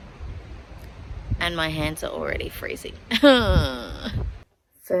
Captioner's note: makes whiny noise